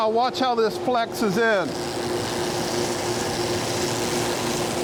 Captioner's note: machine buzzes